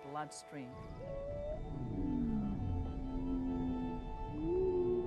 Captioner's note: whale whistles and groans